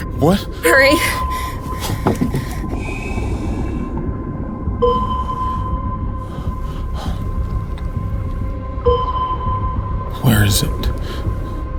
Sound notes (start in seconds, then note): 1.7 water bubbling